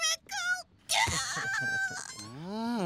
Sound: bawls

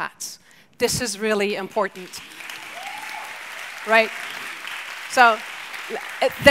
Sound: audience applauds

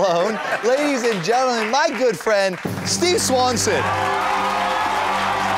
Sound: laughs

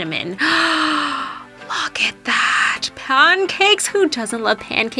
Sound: sighs

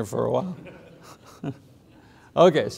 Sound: students laughs

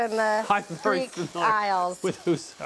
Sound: laughing

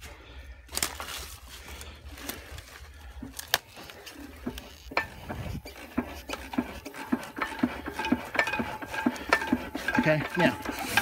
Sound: clunka clunka clunka clunka clunka clunka clunka

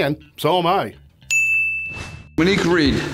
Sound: bell softly chimes

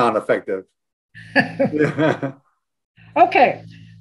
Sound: laugh

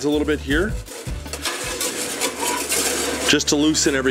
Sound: scraping pan

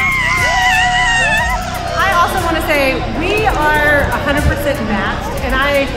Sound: screams with excitement

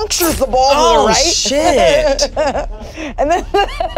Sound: laughing

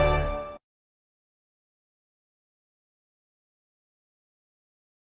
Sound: upbeat orchestral music; silence

